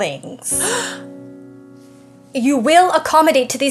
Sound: gasps

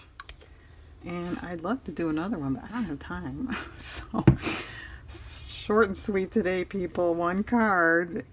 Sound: laughs

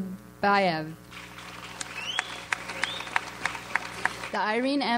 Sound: audience applauds

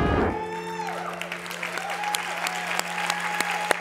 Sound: applause

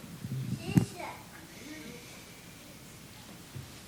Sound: indistinct chatter

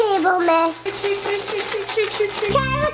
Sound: food clattering

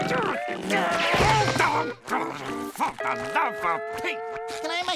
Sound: grumbling

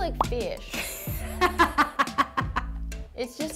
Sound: laughs

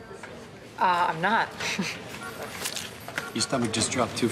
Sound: laughs

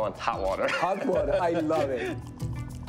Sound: laughing

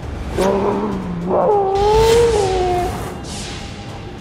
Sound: groaning

